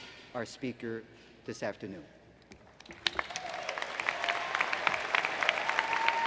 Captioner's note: applause